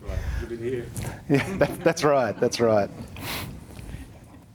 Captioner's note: chuckles